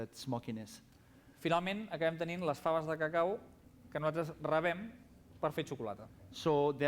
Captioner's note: non-english speech